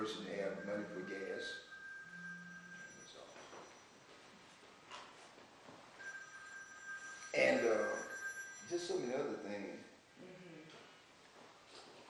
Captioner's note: phone rings